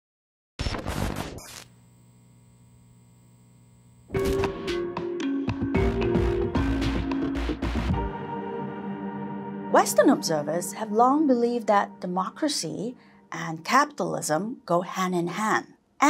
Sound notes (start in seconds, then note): 0.7 screen buzzing; 4.2 pensive music